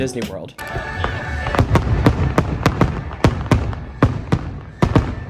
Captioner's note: tons of Fireworks Popping